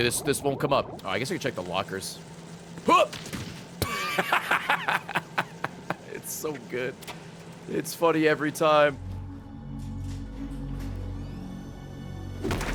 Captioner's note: laughs